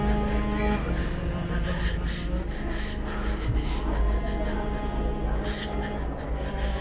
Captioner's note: crying